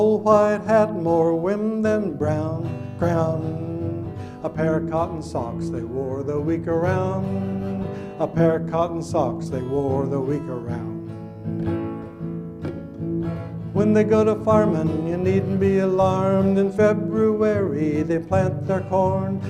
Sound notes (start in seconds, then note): none